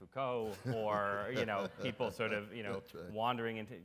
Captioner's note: audience and Dr. West laugh